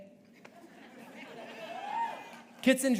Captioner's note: audience laughing